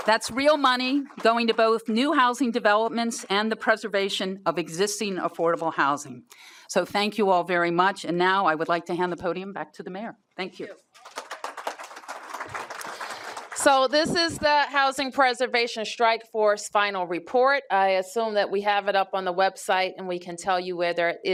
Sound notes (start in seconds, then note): 0.0 applause; 10.9 applause